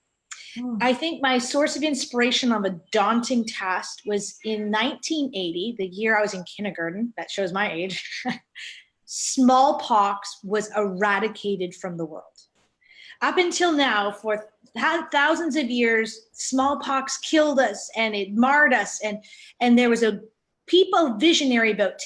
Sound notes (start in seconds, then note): 8.0 laughing